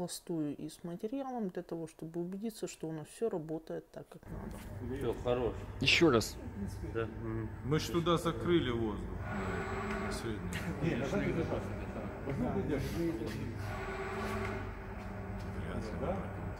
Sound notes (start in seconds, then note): 4.3 fragments of start-up at idle